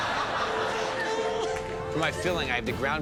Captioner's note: laughter